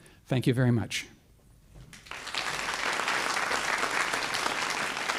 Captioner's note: applause